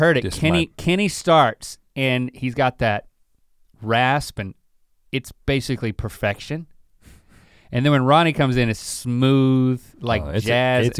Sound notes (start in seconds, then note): none